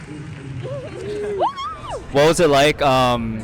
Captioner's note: team cheering